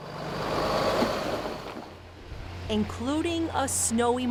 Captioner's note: truck rumbling